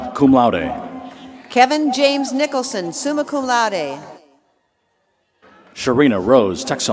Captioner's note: applause